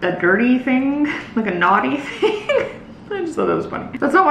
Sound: laughs

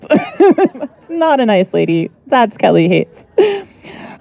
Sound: laughs

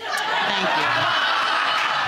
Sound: audience laughing

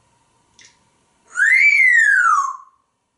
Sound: whistling

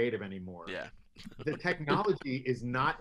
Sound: laughs

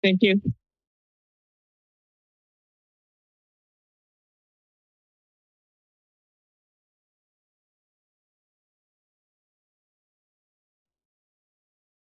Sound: silence

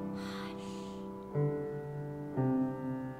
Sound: whispering; gentle piano music

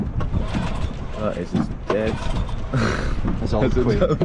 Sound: laughs

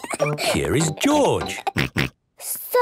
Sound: snort

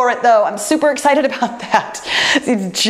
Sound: laughs

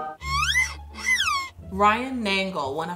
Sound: squeaks

